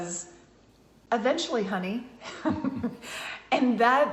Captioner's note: both laughs